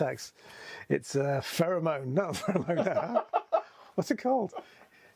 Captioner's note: laughs